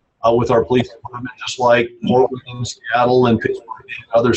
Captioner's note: murmurs